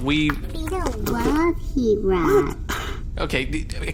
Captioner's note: offended sigh